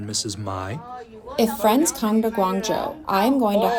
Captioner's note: through translator